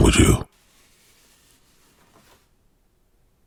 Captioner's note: awkward silence